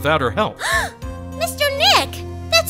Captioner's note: gasp!